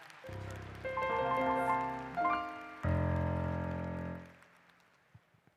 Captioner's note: applause